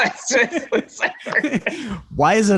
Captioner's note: laughter